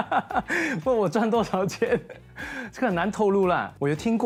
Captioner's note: laughs